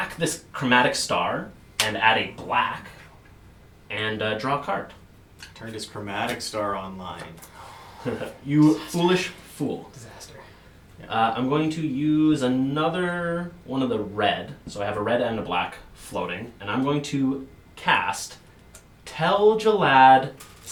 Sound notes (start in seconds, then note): none